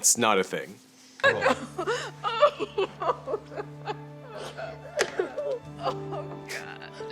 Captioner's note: Robert's family sobbing; somber music; laughing